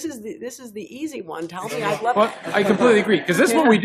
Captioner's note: laughter